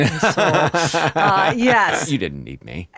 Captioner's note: Billy laughs